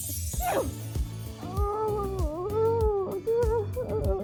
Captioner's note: sneezes then mumbles